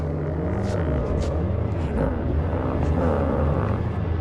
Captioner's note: Skip groans